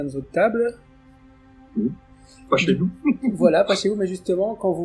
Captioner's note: laughs